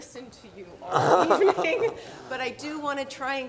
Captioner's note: laughs